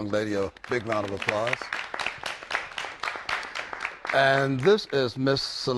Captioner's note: applause